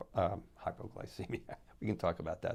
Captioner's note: laughs